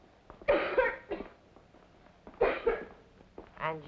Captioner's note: girl coughs